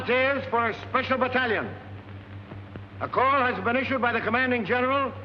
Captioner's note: none